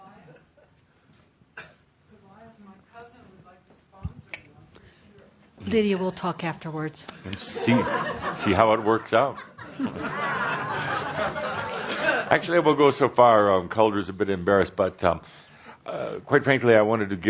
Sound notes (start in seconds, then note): 7.5 laughter